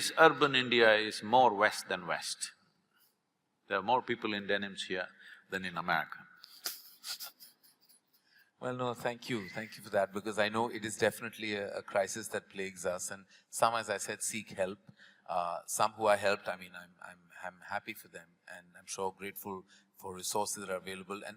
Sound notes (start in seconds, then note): 6.6 both laugh